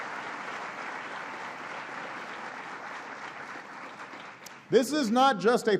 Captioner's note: applause